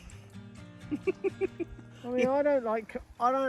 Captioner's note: interviewer laughing